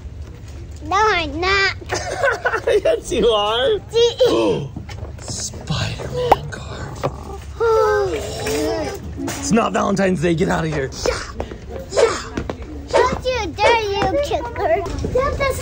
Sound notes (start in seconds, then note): 1.8 laughs; 6.1 gasps